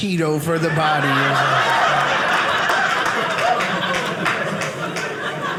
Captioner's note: audience laughing